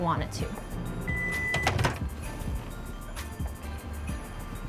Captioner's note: microwave beeping